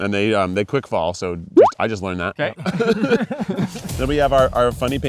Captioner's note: bubble pops